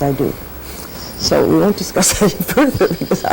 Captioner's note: laughs